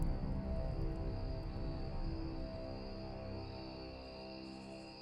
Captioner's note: insects chirping